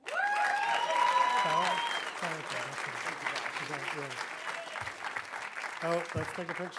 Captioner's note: audience cheering; audience applauding